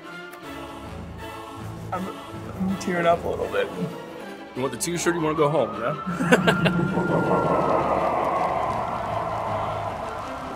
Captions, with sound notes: I'm, I'm tearing up a little bit! You want the t-shirt, you wanna go home? Yeah? [menacing laugh and sirens]